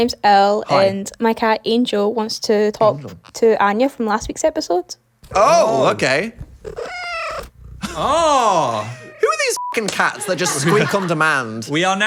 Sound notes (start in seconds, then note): 6.4 cat meows; 9.6 beep